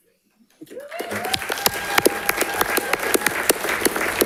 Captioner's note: audience applauding